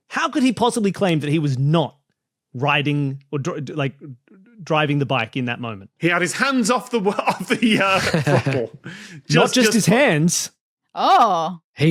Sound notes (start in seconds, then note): 6.9 laughs